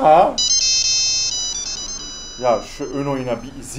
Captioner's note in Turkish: Telefon çalar